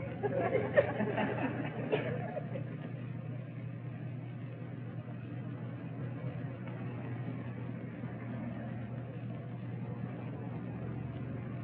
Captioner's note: laughter